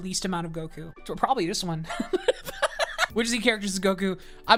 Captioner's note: laughs